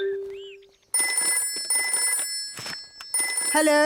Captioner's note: phone ringing